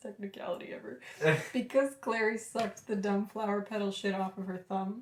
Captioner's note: laughter